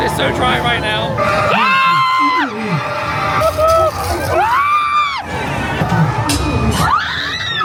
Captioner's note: spooky music; everybody screaming